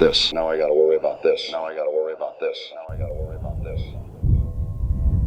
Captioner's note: wind rumbling